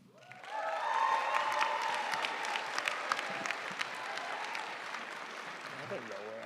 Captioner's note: audience cheering and applauding